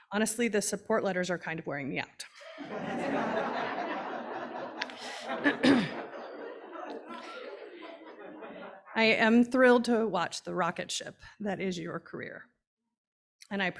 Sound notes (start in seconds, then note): 2.4 audience laughing